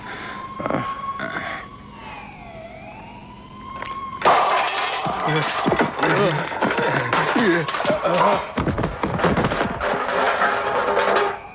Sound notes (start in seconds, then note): 0.3 police siren wails; 3.8 grunting and snorting